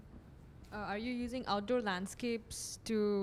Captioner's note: voiceover